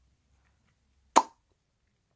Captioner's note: pop sound